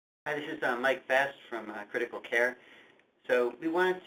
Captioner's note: voiceover